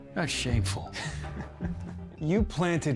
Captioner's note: Kent chuckling